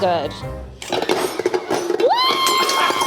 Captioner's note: bowl clanging on mixer; screaming